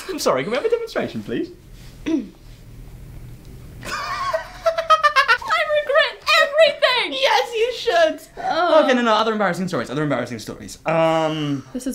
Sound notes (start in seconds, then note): 2.0 clearing throat; 3.8 laughing; 8.3 groaning